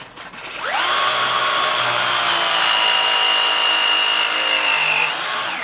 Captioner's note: press tool screeching